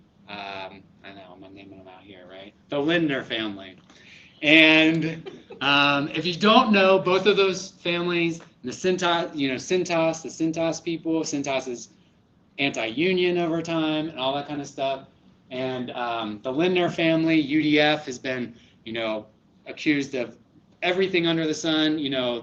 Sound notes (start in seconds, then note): 4.9 laughter